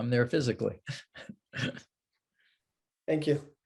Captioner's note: laughs